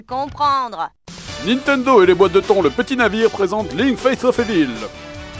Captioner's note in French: Voix-Off